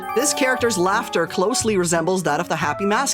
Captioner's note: none